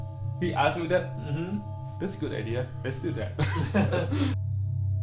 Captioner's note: laughs